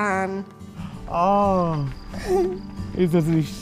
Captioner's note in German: Sie lacht leise